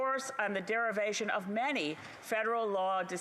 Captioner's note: none